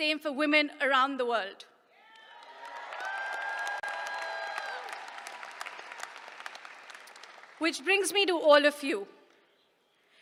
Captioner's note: applause